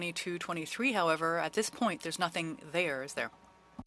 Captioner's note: speaking French